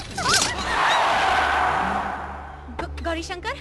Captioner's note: tire Screeching